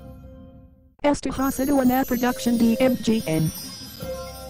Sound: female announcer speaking Spanish

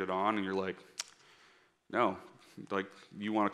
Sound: smacking

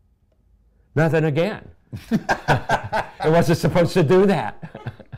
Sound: laughter

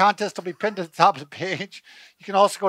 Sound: laughs

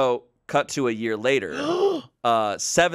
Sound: gasps

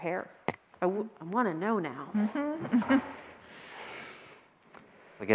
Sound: chuckles

